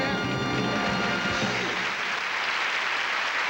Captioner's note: applause